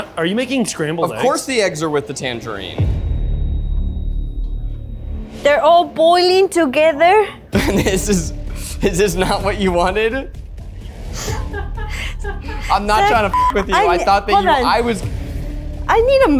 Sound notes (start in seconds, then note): 6.8 laughs; 10.5 tense music; 11.1 laughs